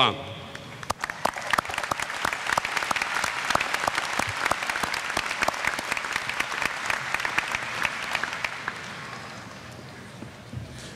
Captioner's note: applause